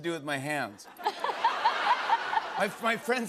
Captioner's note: laughter